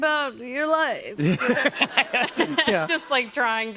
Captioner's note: laughter